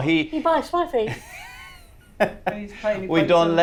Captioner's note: Noel laughs